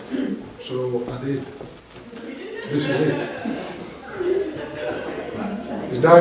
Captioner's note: laughing